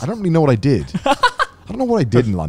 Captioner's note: laughs